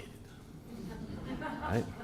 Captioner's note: laughter